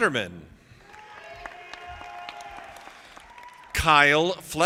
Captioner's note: audience applauding